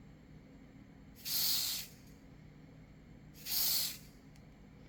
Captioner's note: spraying